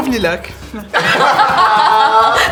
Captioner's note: laughter